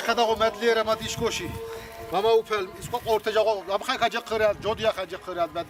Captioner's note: prays in Svan dialect